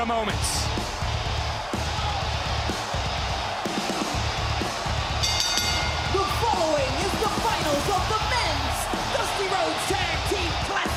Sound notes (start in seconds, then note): 4.8 crowd cheering; 5.2 bell ringing